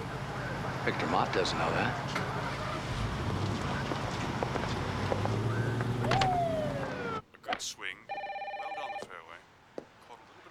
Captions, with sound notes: - Victor Mott doesn't know that. (engine starts) (siren whooping) (phone ringing) -Great swing, it landed on the fairway.